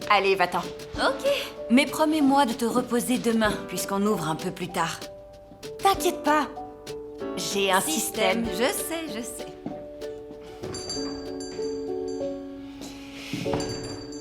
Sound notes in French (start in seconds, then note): 10.6 sonnerie de la porte